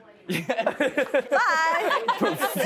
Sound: laughter

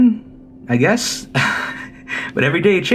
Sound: laughs

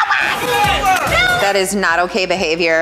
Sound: contestants yell

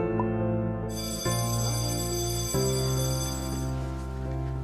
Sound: school bell

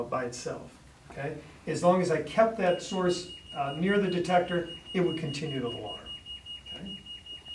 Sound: alarm beeps

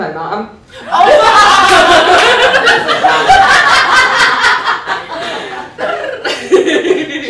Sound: laughter

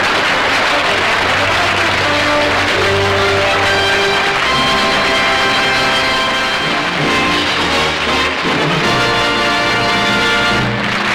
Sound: audience laughter; applause

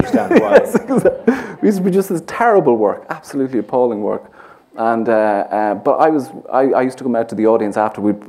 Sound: laughs

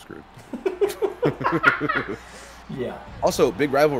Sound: laugh

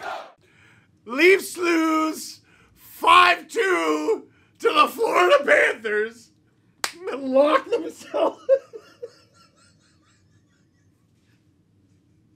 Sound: laughter begins

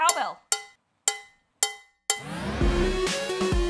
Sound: cow bell noises

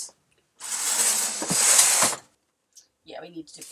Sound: curtain hooks sliding

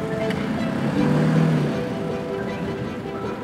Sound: engine rumbling; thrilling music

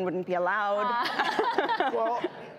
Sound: laughing

